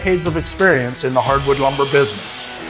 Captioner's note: circular saw buzzing